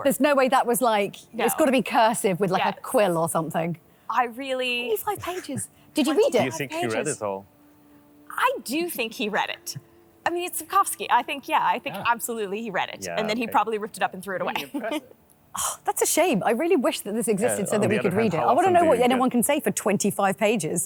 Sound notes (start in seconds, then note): 14.6 scoffs